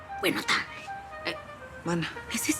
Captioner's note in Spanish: Sonido del cláxon